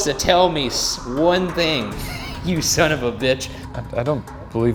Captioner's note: laughs